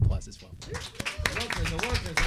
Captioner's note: audience applauding